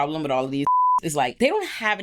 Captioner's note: beep